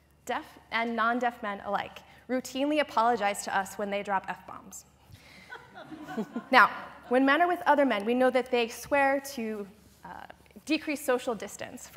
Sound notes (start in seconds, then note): 5.4 laughter